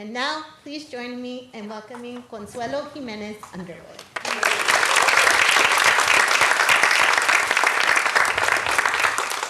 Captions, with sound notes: And now please join me in welcoming Consuelo Jimenez Underwood. [APPLAUSE]